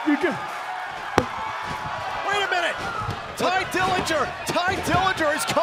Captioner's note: crowd cheering